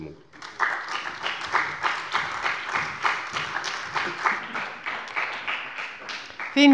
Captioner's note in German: Beifall bei der CDU und dem BÜNDNIS 90/DIE GRÜNEN